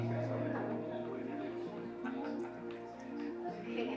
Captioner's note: indistinct chatter